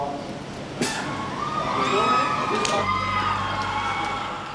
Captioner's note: crowd cheering